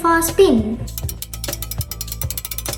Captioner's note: gear cranking sound